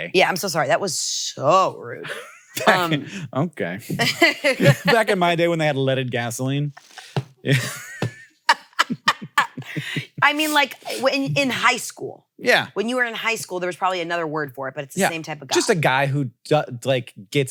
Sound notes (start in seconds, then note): 3.9 laughs; 7.4 both laughing